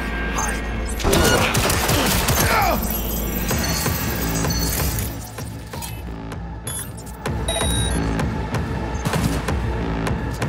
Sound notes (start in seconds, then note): 1.2 gun firing; 5.4 dramatic music